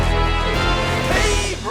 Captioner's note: air horn; intro Theme Music